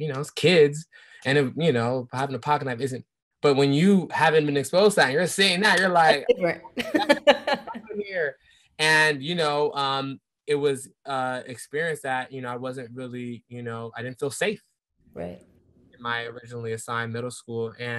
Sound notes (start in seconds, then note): 5.7 laughing